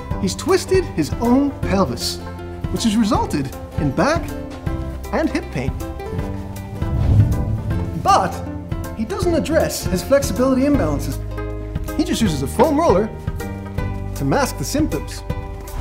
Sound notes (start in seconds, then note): 6.0 air whooshing